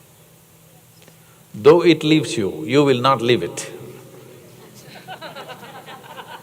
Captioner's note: laughter